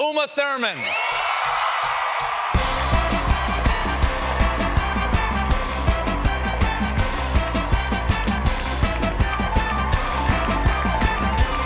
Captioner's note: applause